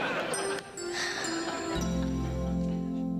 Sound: sighs

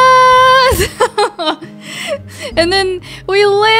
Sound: laughing

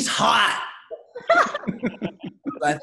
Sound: laughing

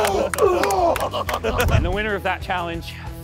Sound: contestants grunting

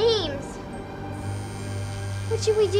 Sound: phone vibrates

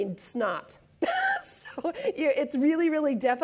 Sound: laughs

